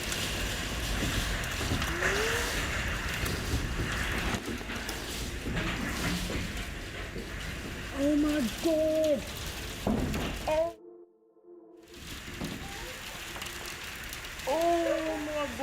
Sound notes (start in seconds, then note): 0.0 rain slamming; 0.0 wind roaring